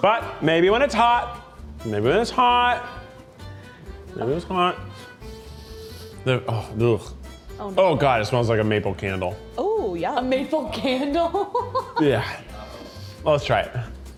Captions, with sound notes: - But maybe when it's hot. Maybe when it's hot. Maybe when it's hot. (sniffs) Oh, blegh. Oh god, it smells like a maple candle. - Oh yeah. - A maple candle? - Yeah. Well, let's try it.